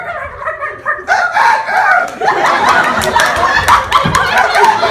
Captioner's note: yelling clucking